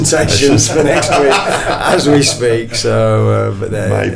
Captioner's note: everybody laughing